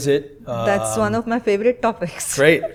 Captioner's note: chuckles